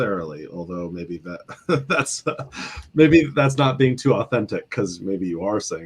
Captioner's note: chuckle